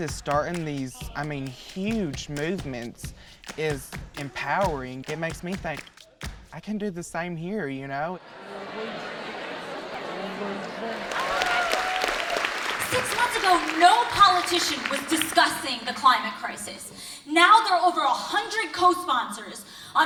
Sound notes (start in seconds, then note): 8.3 crowd chatting; 11.2 crowd applauding